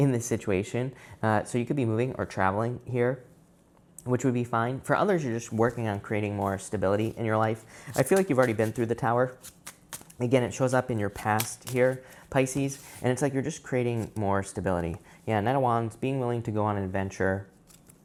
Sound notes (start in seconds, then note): 8.0 cards shuffling